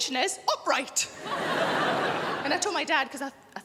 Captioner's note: crowd laughs